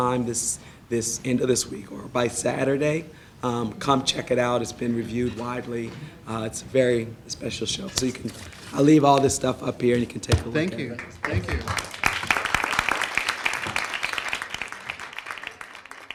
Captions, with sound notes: end of this week or by Saturday, come check it out. It's been reviewed widely. It's very -- a special show. So you can -- I'll leave all this stuff up here and you can take a look. - Thank you. (applause) Thank you. (applause)